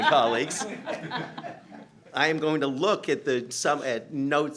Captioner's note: laughter